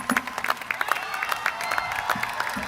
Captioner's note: applause